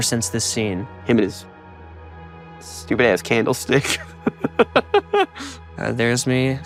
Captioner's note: laughing